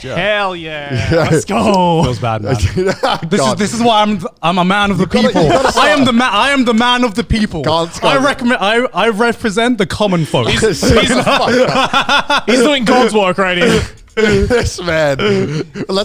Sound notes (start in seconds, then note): 9.9 all laughing